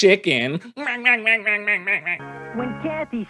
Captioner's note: chicken clucking